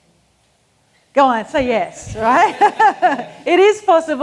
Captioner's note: laughs